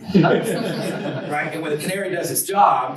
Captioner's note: students laugh